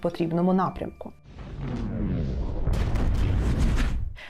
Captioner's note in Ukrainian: звукові ефекти та звуки вибухів